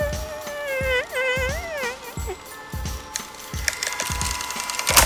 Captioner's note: a little squeak of a fart; tape ends